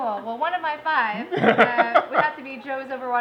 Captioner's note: laughs